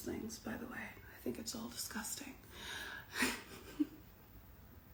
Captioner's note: laughs